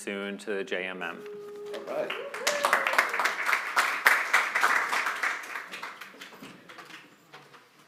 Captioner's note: applause